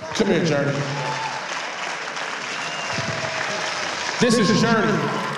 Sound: applause

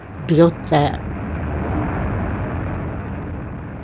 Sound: soundbite of airplane engines roaring

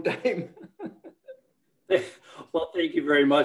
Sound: laughing

